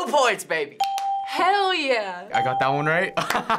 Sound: ding; laughs and claps

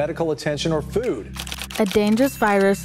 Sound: keys typing

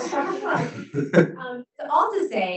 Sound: laughs

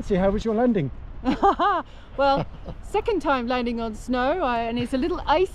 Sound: laughing

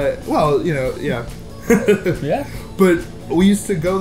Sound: laughs

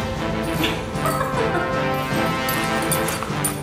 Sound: laughter

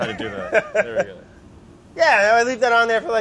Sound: laughs

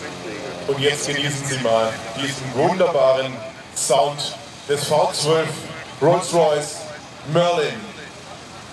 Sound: and now enjoy the wonderful sound of the V12 Rolls Royce Merlin

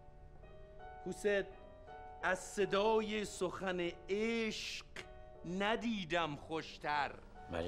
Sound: foreign language

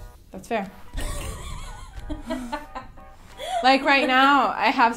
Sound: woman offscreen laughs

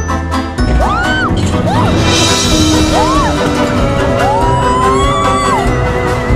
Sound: screaming

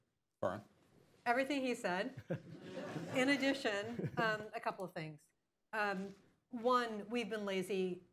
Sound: laughter

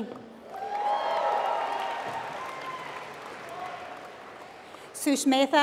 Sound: applause

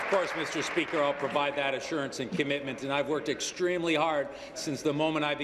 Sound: applause

